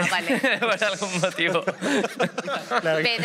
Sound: all laugh

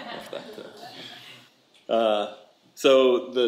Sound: audience laughs

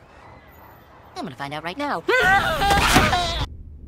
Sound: screaming

